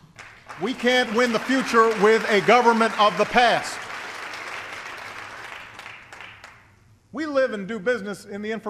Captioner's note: applause